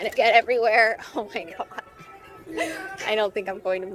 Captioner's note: laughs